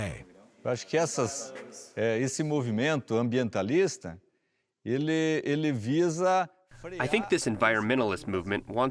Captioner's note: through translator